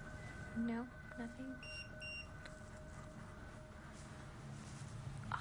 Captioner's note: beeping